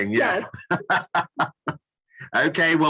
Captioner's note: laughs